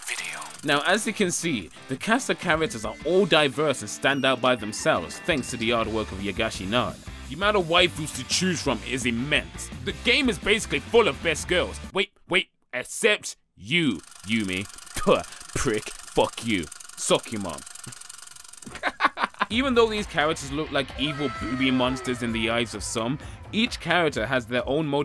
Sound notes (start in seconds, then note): 14.8 spits; 18.6 laughs